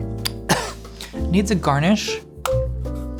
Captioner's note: coughing